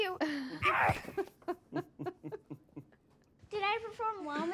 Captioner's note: chuckling